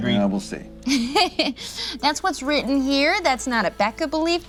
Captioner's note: laughs